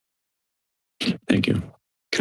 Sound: mic thumps

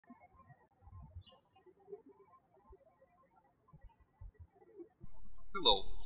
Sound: birds chirping

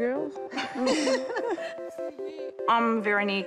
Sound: all laugh

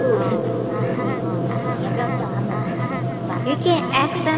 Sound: slow exaggerated laughter

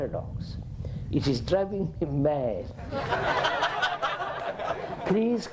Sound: laughter

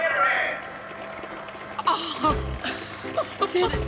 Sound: crowd applauding

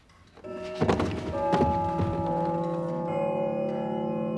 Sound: clock chimes

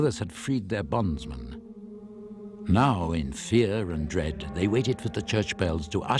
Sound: solemn choral singing; bells tolling

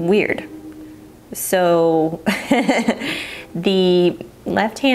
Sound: chuckling

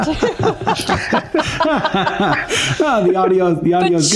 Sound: laughter

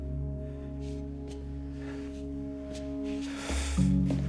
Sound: sighs

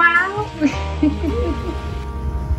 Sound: laughing

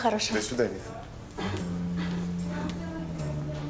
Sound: clears throat

